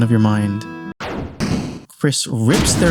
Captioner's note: thud